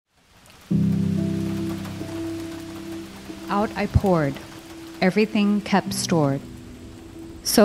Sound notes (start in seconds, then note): 1.6 rain pours